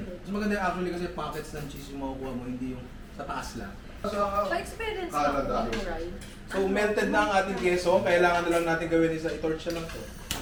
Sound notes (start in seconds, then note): none